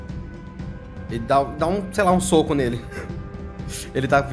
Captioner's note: laugh